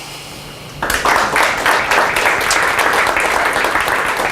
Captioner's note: applause